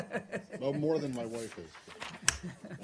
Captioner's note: laughter